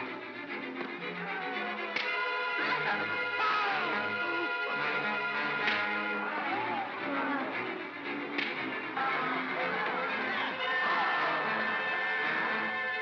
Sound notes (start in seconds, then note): 0.2 suspenseful music; 1.9 crack; 2.0 Bogeyman screams; 5.6 crack; 8.3 crack; 10.6 Bogeyman cries out; 12.8 suspenseful music